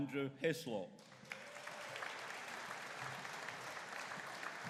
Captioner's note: audience cheering